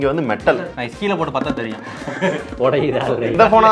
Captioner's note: men laugh